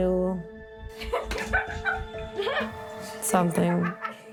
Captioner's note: laughs